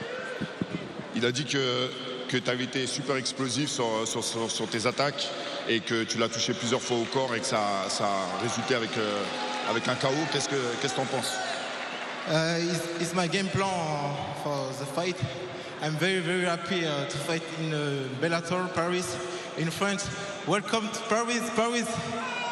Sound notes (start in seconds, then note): 6.3 speaking foreign language